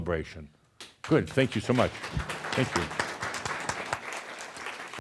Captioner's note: audience applause